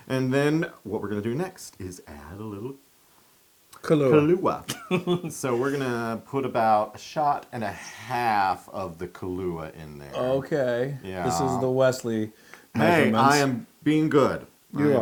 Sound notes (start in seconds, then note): 4.6 laugh